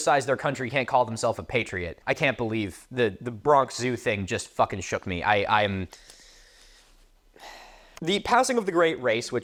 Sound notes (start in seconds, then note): 7.3 sigh